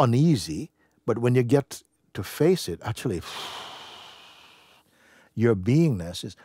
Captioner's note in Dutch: blaast uit